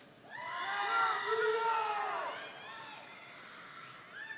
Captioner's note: audience cheering